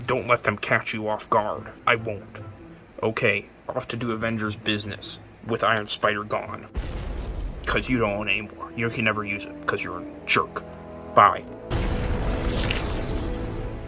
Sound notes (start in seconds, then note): 6.7 explosion sound; 11.7 Iron Man take off explosion